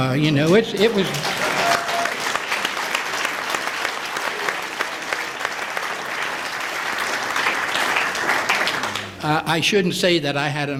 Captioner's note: applause